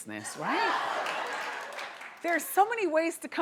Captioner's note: audience laughing